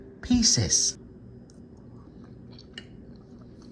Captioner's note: chewing